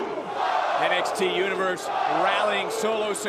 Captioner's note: crowd chants